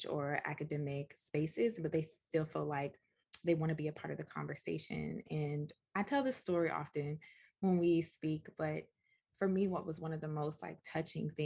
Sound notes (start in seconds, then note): none